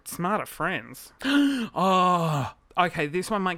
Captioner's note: gasps